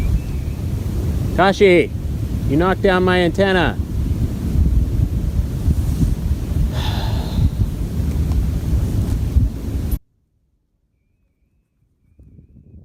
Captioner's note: sigh